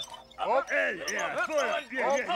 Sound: group chattering

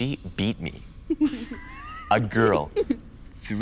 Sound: group laughs

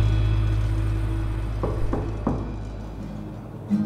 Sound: A knock at the door

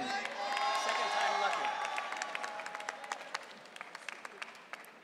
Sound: audience cheering

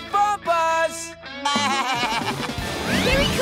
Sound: bleating

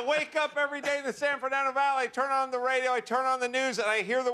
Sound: laughter

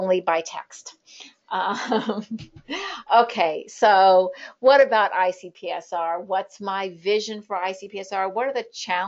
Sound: laughter

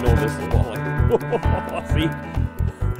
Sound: laughs

